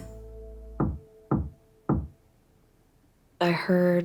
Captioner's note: tapping from behind the wall